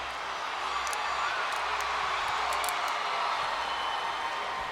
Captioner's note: crowd cheering